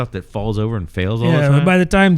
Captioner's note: uh